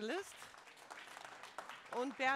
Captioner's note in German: applaus